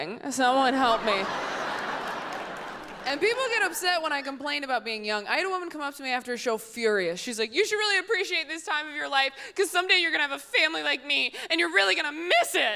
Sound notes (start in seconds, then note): 0.8 audience laughs